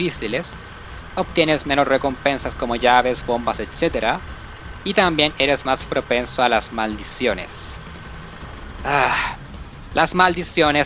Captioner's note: sigh